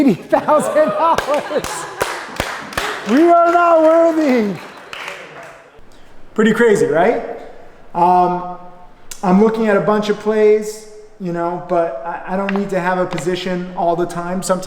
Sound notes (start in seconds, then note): 0.1 laughs and claps; 4.6 class laughs